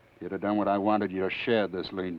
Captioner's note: none